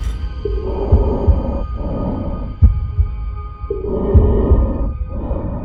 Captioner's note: breathing apparatus hissing